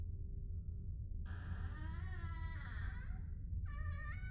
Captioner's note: door creaking